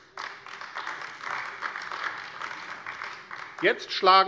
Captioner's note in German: Beifall AfD